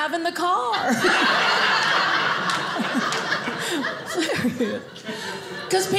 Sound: audience laughing

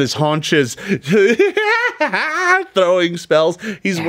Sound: cackles

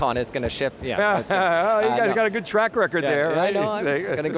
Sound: laughs

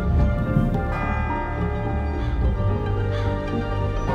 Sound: wedding bell rings; bell rings

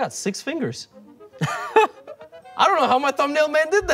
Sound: Toast chuckles

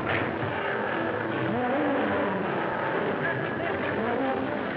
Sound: lions roaring

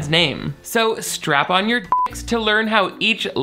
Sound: beep

